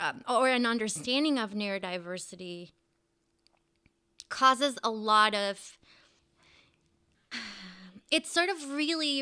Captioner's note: sighs